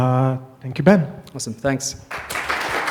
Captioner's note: applause